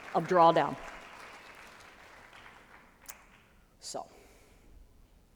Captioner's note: applause